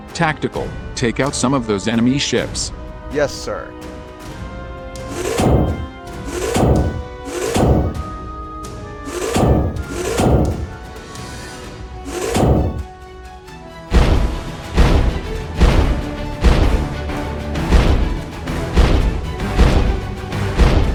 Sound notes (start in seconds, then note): 5.1 zap; 12.0 zap; 13.9 boom; 17.7 boom; 20.6 boom